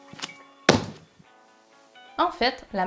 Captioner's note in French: Bruit de tampon